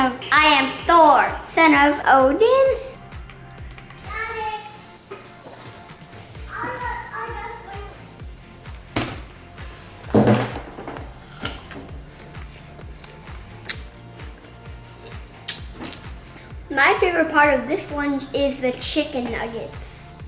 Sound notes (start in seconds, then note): 8.9 whacking; 11.0 crunching